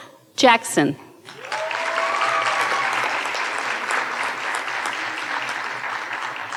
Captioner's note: audience cheering and applauding